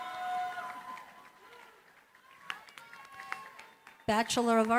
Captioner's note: applause